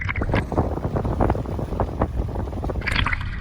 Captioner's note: flags flapping